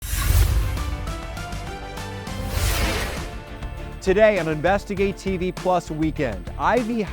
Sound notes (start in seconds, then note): 0.0 dramatic music; 2.2 scene swooshing